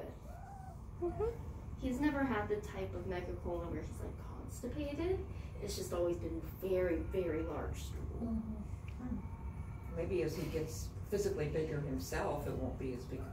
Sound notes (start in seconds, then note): 0.3 mrrrr mrr; 6.2 crying in the distance